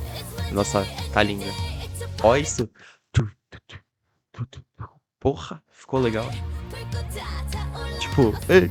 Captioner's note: mouth noise